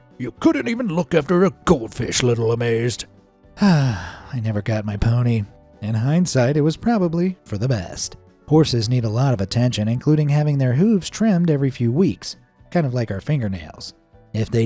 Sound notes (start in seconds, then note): 3.5 sighs